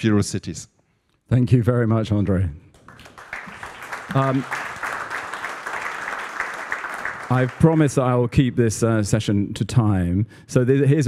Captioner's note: applause